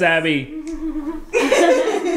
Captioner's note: laughing; laughs excitedly